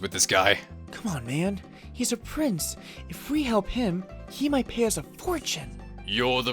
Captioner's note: whispering